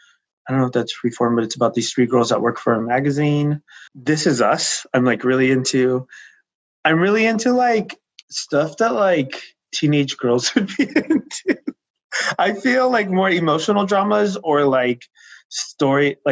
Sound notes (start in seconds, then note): 10.4 laughing